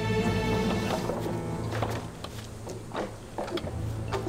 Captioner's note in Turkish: Kütük yontma sesleri